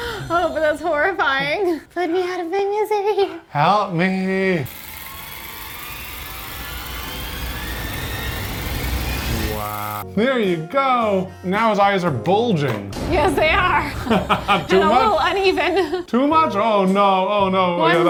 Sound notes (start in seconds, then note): 5.5 device clicking